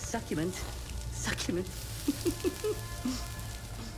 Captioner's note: laughs